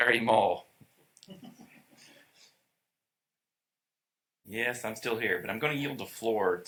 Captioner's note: laughter